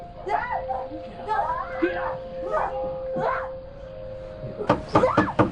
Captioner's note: knocking on door; screaming